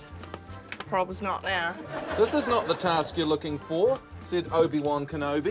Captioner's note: laughter